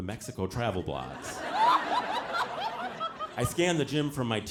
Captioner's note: audience laughing